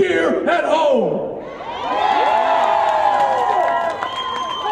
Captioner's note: cheering